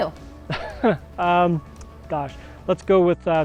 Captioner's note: chuckles